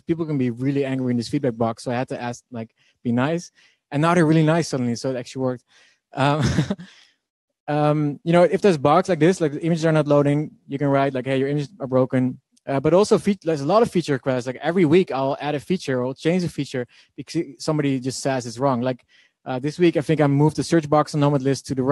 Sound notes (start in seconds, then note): 6.2 laughing